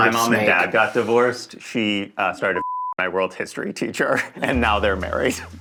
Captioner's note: beep